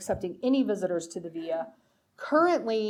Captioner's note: speaking foreign language